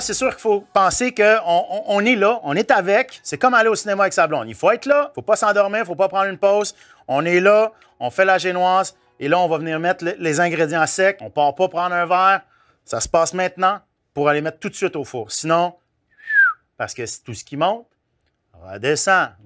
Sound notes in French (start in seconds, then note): 16.1 sifflement